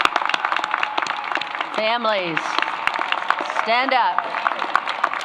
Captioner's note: applause